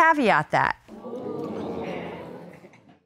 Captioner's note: audience exclaiming